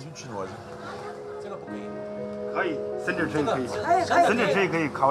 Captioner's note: speaking in foreign language